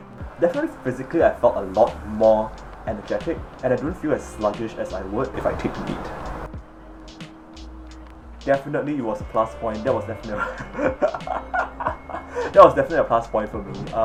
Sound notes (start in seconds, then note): 10.2 maniacal laughter